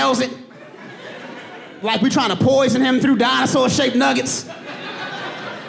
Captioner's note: audience laughing